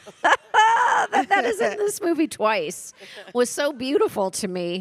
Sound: laughs

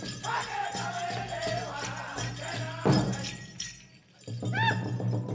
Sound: regalia ornaments jingling

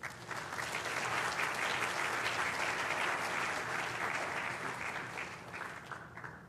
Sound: applause

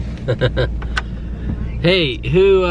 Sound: laughs

